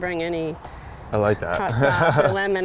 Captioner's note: laughs